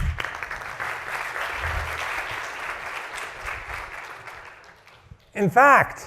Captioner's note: applause